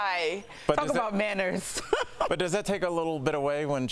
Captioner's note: laughter